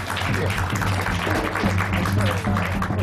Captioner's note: applause